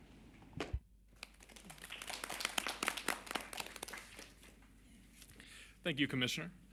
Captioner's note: applause